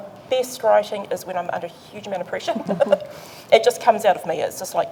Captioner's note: laughs